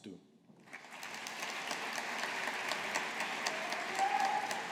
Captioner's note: audience applauding